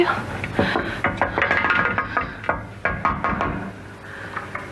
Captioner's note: Jane knocking